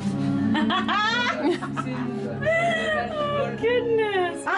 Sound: laughs

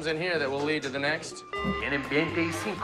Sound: beeps

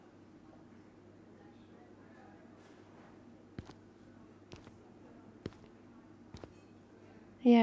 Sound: time skip - footsteps

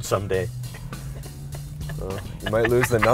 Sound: laughing

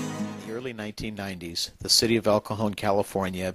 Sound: voiceover

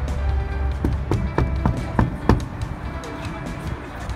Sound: knock

